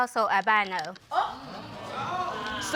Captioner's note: audience exclaiming